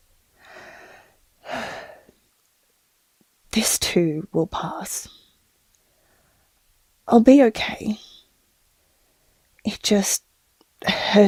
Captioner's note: sigh